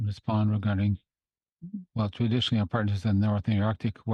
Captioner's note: speaking French